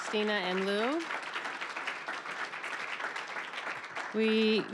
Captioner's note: applause